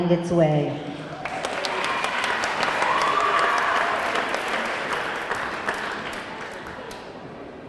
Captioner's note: audience cheering; audience clapping